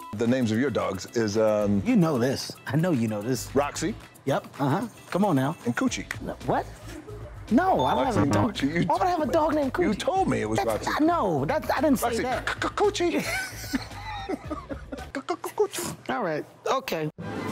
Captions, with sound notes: - The names of your dogs is um - You know this. I know, you know this. - Roxy. - Yep, uh huh, come on now. - And coochie. - What? No, I don't - Why would I have a dog named coochie? - You told me it was Roxy and Coochie - No, I didn't say that. - Roxy, C-c-c-coochie. (both laughing) - C-c-c-coochie. - All right. okay.